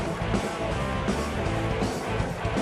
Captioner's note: cheers and applause